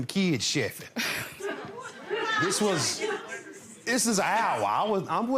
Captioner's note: laughs